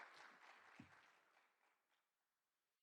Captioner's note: applause